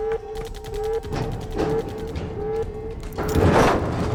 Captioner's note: banging